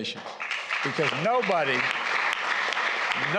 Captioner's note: applause